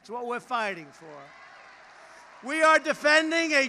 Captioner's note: applause